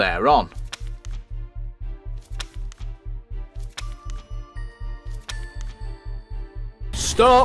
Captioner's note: sounds of paper turning